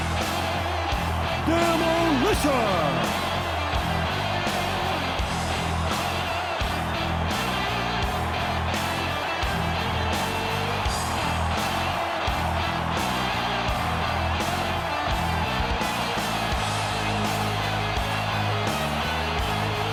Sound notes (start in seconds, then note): 4.7 crowd cheering; 4.7 driving music continues